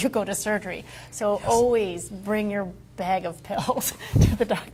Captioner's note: laughs